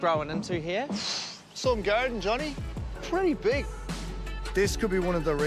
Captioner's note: sighs